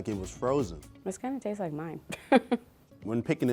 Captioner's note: laughs